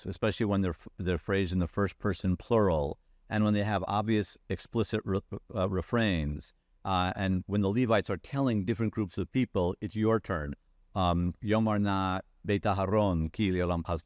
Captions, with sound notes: especially when they're phrased in the first person plural. And when they have obvious explicit refrains and when the Levites are telling different groups of people, it's your turn, (speaking in foreign language).